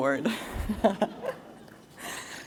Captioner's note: laughter